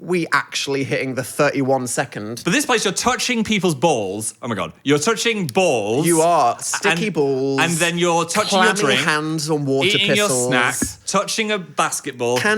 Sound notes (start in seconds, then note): 9.1 overlapping chatter